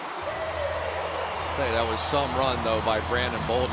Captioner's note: pa announcement